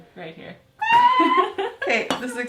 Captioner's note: laughing